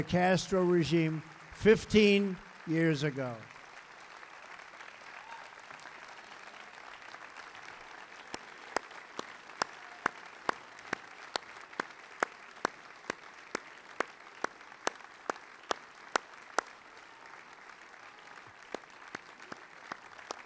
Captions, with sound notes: Castro regime 15 years ago. (Applause.)